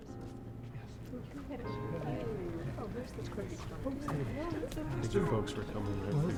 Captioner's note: congregation chattering